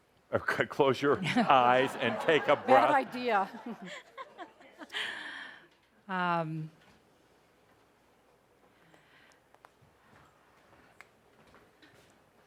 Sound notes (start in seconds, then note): 1.2 laughing; 5.6 laughter